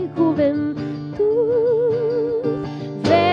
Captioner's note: none